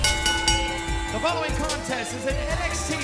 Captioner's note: bell ringing